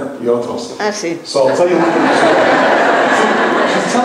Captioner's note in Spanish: laughs